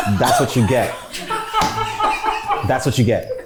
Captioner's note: crew laughs